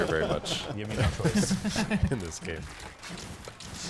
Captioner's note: players laughing